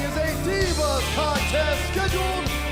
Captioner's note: bell ringing